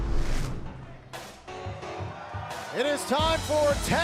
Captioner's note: crowd cheering